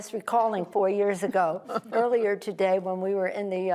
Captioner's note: laughter